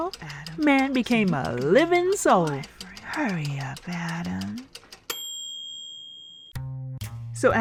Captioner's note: ding!